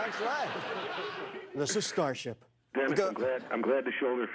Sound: laughter

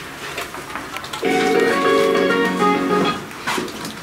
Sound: phone rings

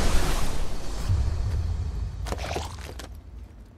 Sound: wet grunts

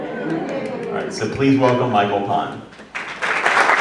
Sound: cheering; applause

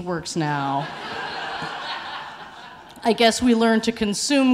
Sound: audience laughing

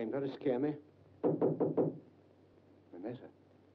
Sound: knocking on door

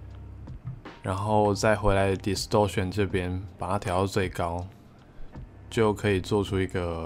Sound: distortion

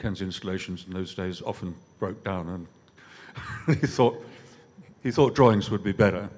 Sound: laughs

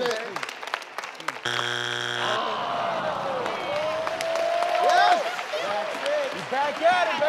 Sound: board buzzes; audience groans

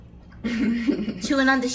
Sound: laughs

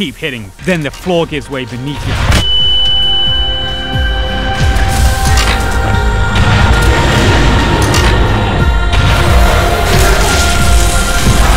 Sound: ear ringing

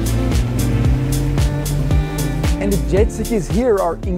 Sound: motor revving

